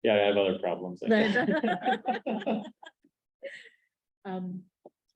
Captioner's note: laughter